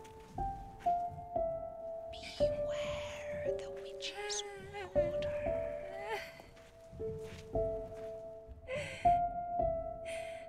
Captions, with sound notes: - [Ghostly Voice] Beware the witch's water. (woman sobbing)